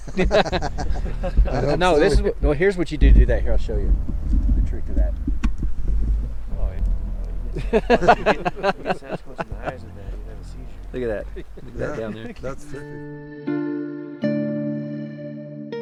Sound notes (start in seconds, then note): 0.0 men laugh; 7.3 men laugh; 13.1 gentle music